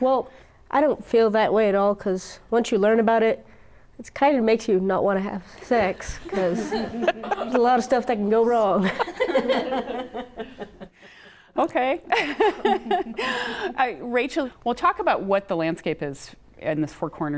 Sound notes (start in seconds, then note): 12.0 laughter